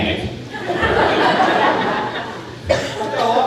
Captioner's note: crowd laughing